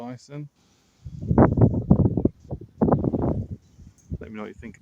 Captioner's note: wind noises